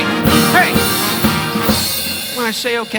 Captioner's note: whistles